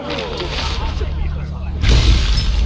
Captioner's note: thunder